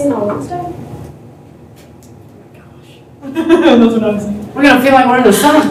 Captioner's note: laughter